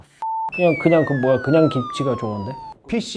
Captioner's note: TN: Rapidly diminishing voice